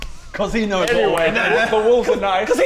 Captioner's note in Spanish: Sonidos de puñetazos